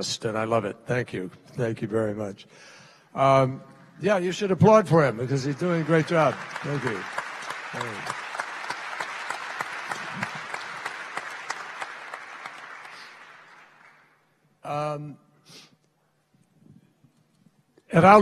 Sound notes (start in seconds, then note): 10.9 applause